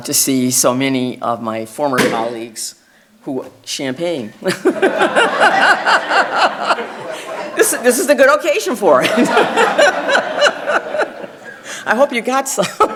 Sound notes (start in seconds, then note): 2.0 cork popping; 4.5 laughing